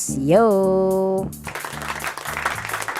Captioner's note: applause